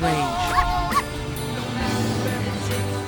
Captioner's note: pop song; barking sound; plane passing sound; pop song